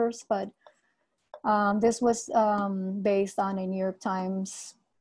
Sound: none

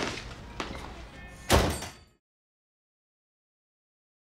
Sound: door slamming

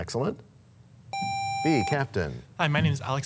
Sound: sound of a buzzer

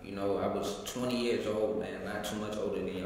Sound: none

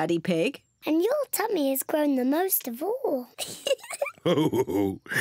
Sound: laughs

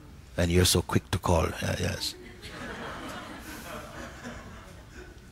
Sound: laughter

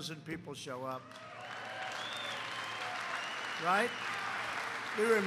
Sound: applause

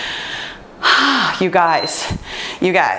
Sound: breathes out heavily

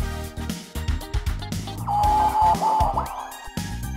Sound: ham radio dial tuning

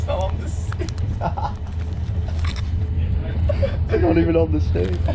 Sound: both laughing

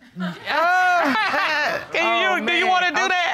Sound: judge laughs

